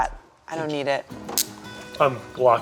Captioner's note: handcuffs clicking